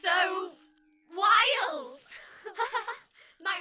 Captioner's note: laughter